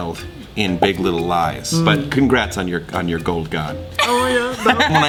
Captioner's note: laugh